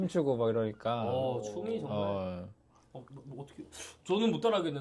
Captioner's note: exclamation